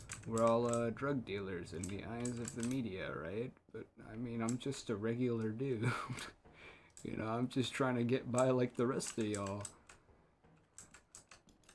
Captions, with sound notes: We're all, uh, drug dealers in the eyes of the media, right? But, I mean, I'm just a regular dude. [laughter] Y'know, I'm just trying to get by, like the rest of y'all.